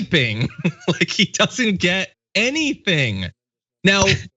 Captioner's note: laugh